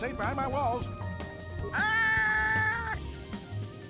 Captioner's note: screams in terror